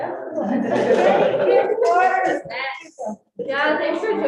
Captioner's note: all chattering